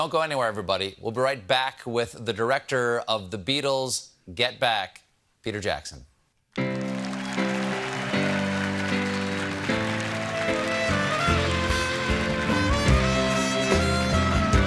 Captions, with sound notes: DON'T GO ANYWHERE, EVERYBODY. WE'LL BE BACK WITH THE DIRECTOR OF "THE BEATLES: GET BACK," PETER JACKSON. ( CHEERS AND APPLAUSE ) ( BAND PLAYING )